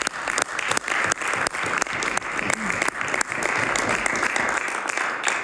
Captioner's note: some Applause